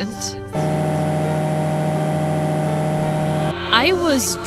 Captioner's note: motor revving!